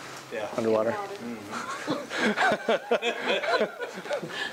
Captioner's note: laughing